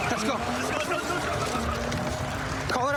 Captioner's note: shouting